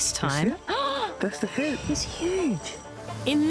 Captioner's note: gasps